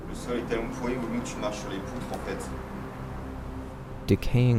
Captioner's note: speaks French